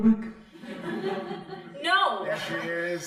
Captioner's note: crowd laughing